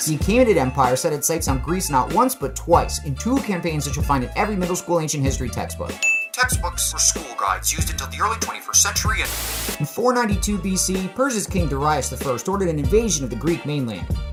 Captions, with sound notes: the Achaemenid Empire set its sights on Greece not once, but twice, in two campaigns that you’ll find in every middle school ancient history textbook. [ding] Textbooks were school guides used until the early 21st century and- [TV static] In 492 B.C., Persia’s king Darius I ordered an invasion of the Greek mainland.